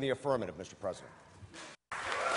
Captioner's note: extended applause from the gallery